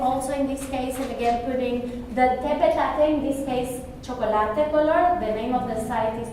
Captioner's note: spanish